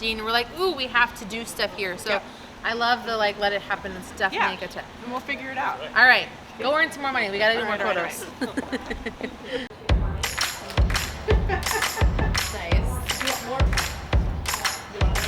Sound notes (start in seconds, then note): 8.2 chuckling; 9.8 upbeat music